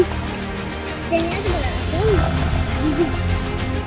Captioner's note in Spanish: rugido